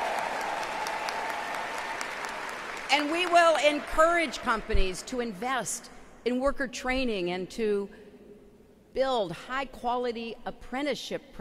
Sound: applause

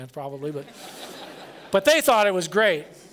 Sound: laughter

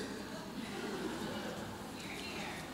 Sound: audience chuckles

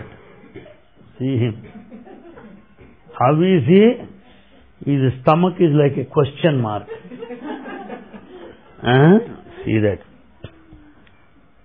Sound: laughter; laughter

